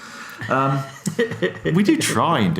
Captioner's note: chuckles